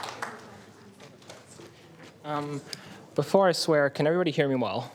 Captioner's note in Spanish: aplausos